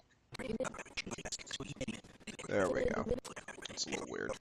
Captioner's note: audio skipping